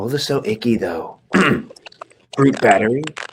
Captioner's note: Dominic's throat clearing